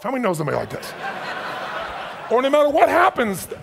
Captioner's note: audience laughs